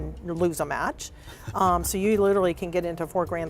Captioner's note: laughing